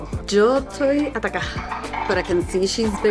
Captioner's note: speaks foreign language